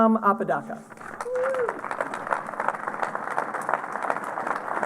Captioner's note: applause